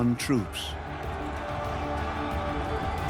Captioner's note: battle cries